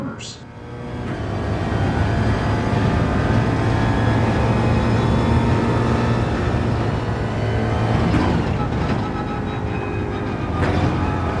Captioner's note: engines revving, tyres grip, racing sounds